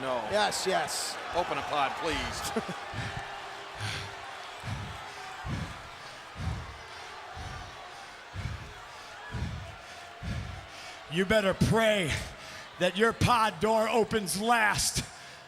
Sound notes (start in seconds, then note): 5.1 Punk panting